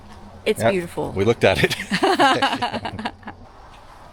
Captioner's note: laughing